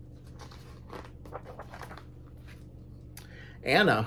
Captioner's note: page turns